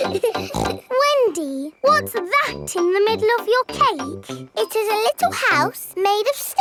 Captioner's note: snorts